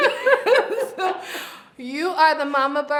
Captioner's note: both laugh